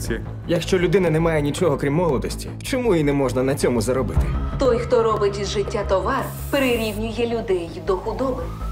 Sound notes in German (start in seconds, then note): 4.1 Frau, Englisch